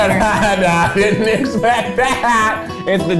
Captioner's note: laughs